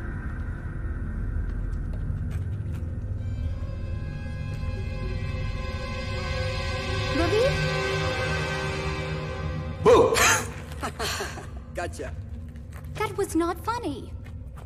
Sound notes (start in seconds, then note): 4.2 scary music; 10.4 laughing